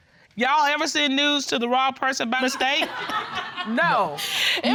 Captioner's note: judge dana reading